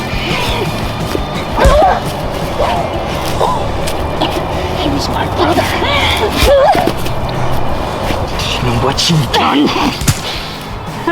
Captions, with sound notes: (Kristen yells) - He was my brother. Do you know what you've done?